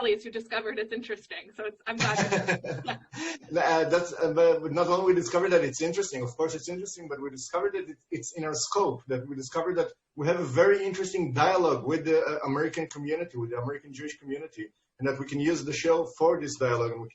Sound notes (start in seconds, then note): 1.9 laughs